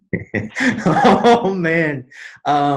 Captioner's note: laughs